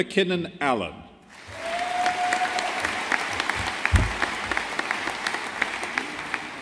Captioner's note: audience applauding